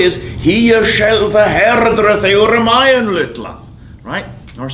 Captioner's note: speaking foreign language